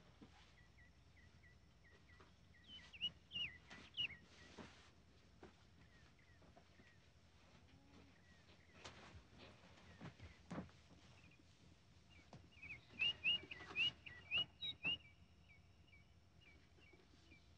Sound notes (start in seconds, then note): 2.5 birds whistling